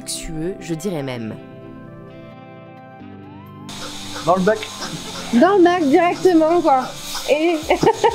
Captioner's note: laughs